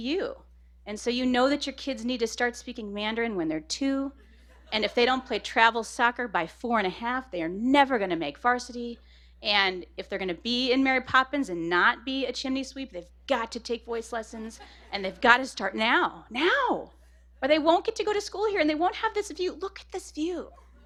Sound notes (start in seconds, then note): 13.9 laughter; 20.5 laughter